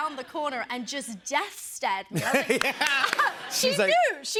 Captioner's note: laughter